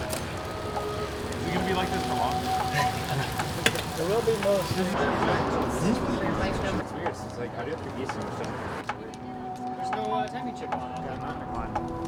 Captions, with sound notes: - You gonna be like this for long? (man chuckling) (people chatting) (mellow instrumental music)